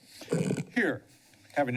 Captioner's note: mic sounds